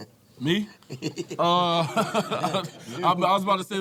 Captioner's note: panel laughing